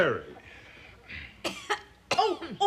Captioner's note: coughs